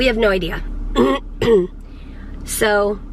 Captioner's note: clearing throat